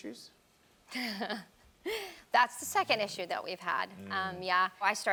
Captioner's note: chuckles